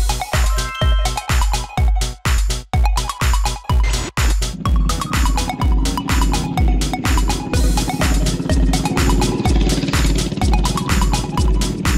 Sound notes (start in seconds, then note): 0.1 chimes; 2.3 whimsical music